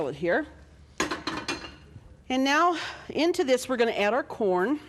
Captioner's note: metal clanking